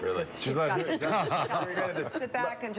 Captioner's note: laughs